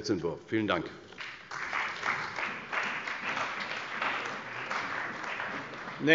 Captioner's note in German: Beifall bei der CDU und dem BÜNDNIS 90/DIE GRÜNEN